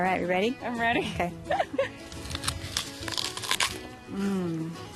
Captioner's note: crunching